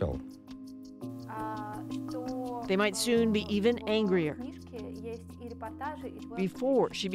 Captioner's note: speaking alternate language